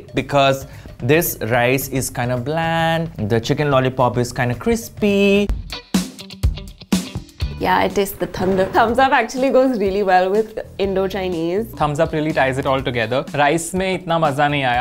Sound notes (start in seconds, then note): 5.5 upbeat music; 7.5 thunder rumbles